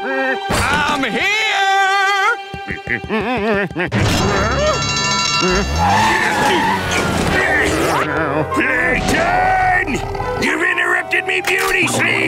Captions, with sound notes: I'm here! [humming] [alarm ringing] [grunting] Plankton! You've interrupted me beauty sleep!